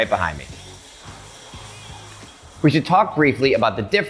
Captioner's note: bottles rattling